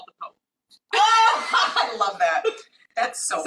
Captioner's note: both laughing